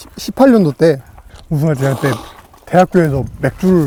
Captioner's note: slurps